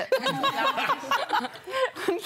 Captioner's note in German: Gelächter